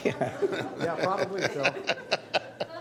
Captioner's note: laughter